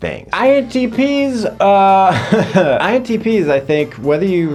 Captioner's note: laughs